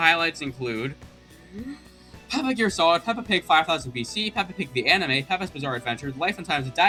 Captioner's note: takes deep breath